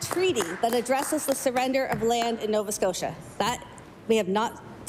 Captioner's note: applause